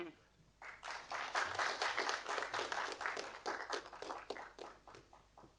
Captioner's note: audience applauding